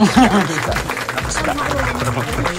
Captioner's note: clapping